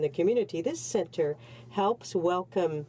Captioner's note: speaking French